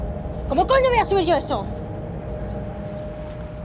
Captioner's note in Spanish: gritando